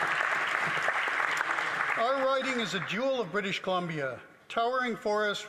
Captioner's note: some Applause